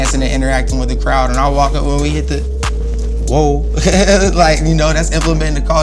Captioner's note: laughs